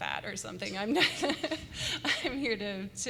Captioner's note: laughter